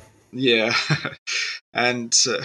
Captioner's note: laughs